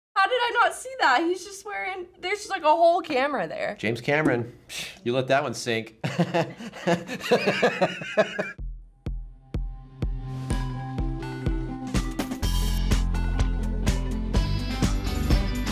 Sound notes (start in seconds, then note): 5.3 scoffs; 6.0 laughs